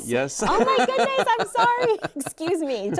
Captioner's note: laughter